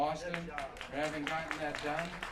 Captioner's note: applause